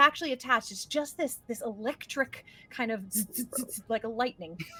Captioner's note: imitates zapping